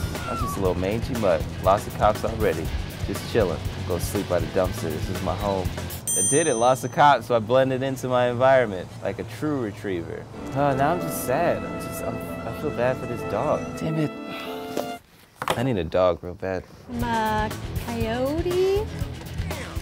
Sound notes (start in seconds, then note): 6.0 affirmative ding; 10.3 sad violin music; 14.8 music ceases abruptly; 18.2 intense metal music